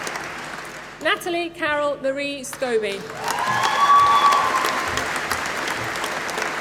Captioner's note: applause